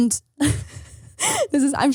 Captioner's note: laughing